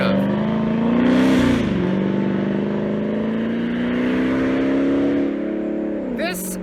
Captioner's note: engine revving